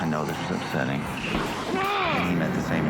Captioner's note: screams